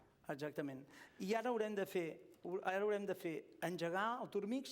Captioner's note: non-english speech